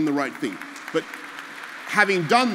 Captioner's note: applause